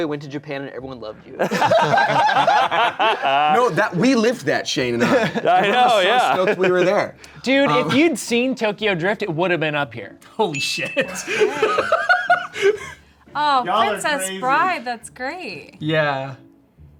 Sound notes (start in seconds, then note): 1.4 everyone laughs; 11.0 laughs